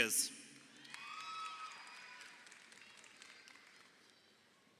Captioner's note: crowd cheering